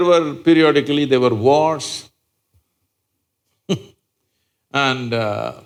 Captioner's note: laughs